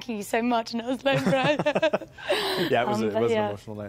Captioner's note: speaking gibberish